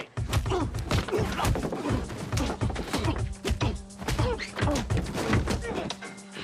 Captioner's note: tense music; blows thudding